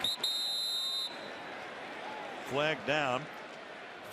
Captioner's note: whistle blowing